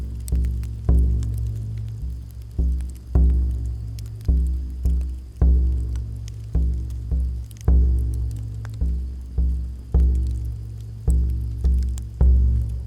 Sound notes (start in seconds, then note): 0.0 dramatic music; 0.3 fire crackling; 3.2 dramatic music; 6.5 fire crackling; 9.9 dramatic music